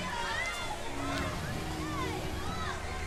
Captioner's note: cheering